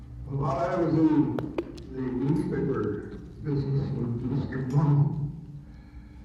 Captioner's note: audio distorts